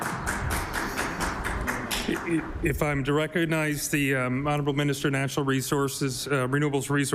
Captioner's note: applause